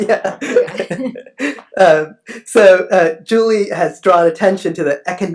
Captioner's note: laughs